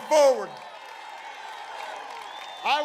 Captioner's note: applause